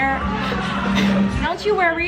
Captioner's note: blows